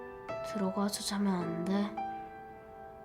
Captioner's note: speaking in Korean